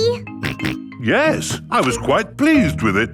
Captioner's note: snorts